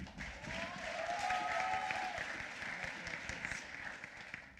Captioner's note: applause